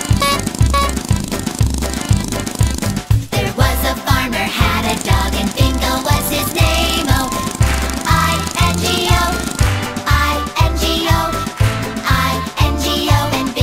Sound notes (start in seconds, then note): 0.0 car honking; 0.2 polka music; 6.5 clap; 6.7 car engine purring; 10.8 clap